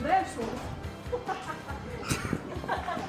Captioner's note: Yagami Light laugh